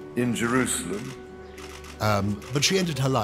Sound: camera clicking

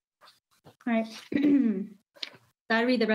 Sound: coughs

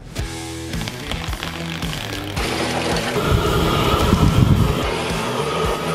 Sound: heavy rock music; charcoal rattling; flamethrower roaring; heavy rock music

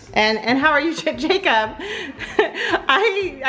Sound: laughs

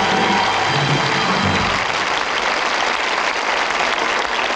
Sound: audience applauds

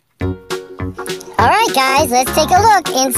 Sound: upbeat music; high Pitched Voice

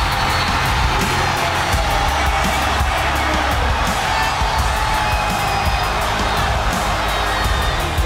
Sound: cheers

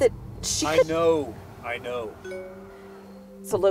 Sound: notification sound

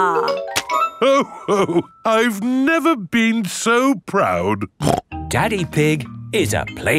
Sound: snorts

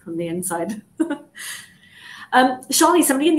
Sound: chuckles

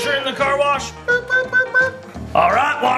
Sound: car beeping

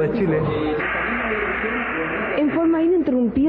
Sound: radio equipment noise

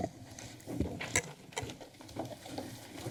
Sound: rustling sounds

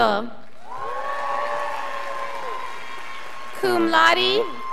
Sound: scholars applauding

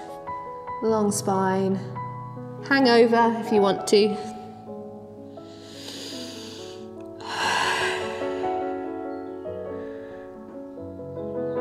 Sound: breathing deeply

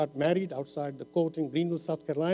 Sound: none

